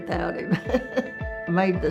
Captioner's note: laughing